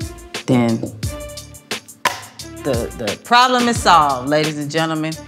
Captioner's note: slaps hands